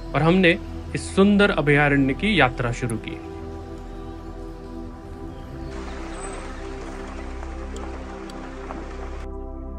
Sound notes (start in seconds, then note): 5.6 Gypsy moving sound